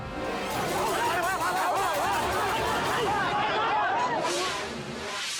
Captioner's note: captor and bystanders clamor; air whooshes